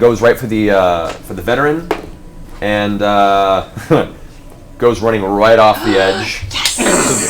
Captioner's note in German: lacht; keucht auf